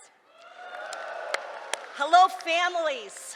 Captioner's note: cheering